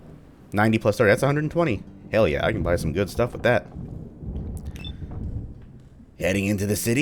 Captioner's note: thunder